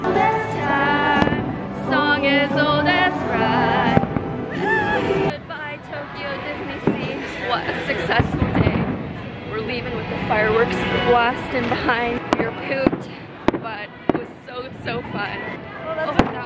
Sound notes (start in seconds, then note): 4.4 squeals